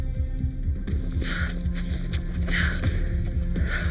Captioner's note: Gina panting